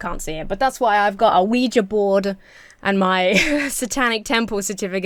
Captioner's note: laughs